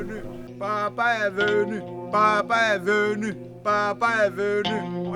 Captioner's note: apostles shouting